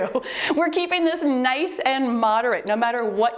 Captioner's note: timer beeps